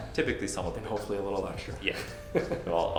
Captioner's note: laughs